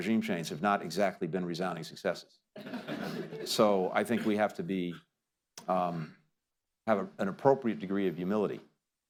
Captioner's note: laughter